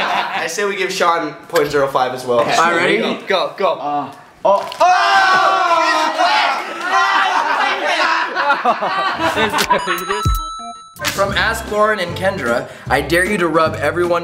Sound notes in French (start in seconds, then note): 4.6 gémissements